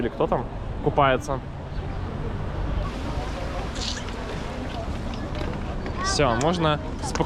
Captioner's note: crowd noise